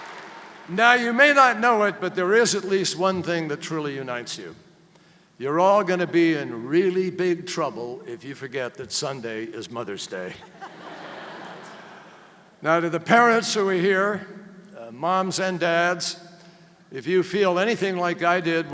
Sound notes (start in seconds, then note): 10.3 laughter